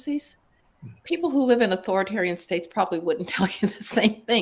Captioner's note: laugh